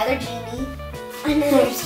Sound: laughing

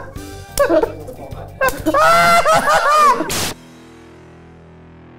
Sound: laughter

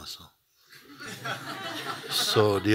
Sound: laughter

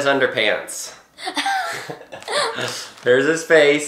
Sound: laughs

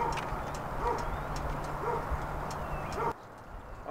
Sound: dogs bark in the background

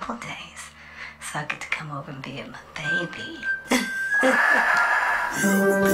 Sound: laugh

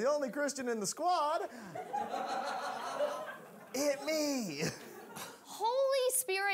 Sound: audience laughing

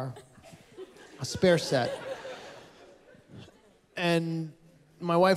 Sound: laughter

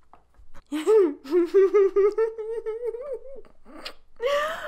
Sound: giggling

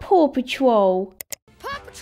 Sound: click!

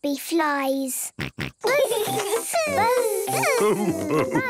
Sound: both buzzing

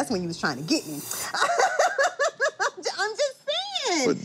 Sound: laughs

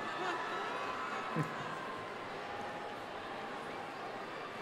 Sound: audience laughing

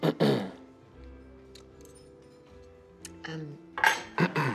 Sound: clearing throat

